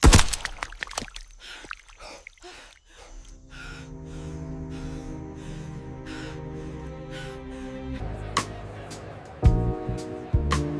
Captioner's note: heavy breathing